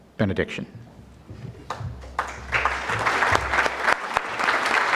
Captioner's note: audience clapping